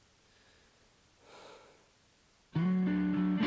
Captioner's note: sigh